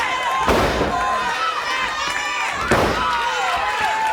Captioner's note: body thuds